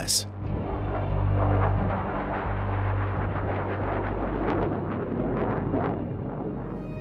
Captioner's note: sound of flying airplane